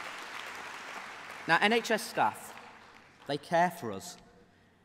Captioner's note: applause